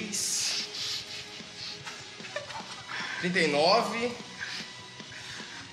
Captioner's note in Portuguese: risadas